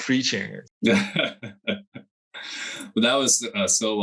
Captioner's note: laughs